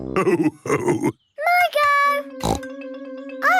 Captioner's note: snorts